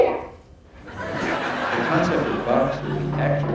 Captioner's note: laughing